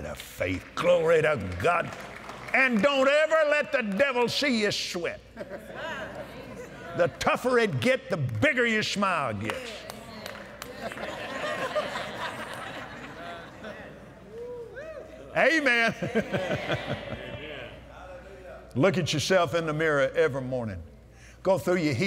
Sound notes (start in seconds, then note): 5.3 laughter; 10.7 laughter; 12.2 audience "Amens"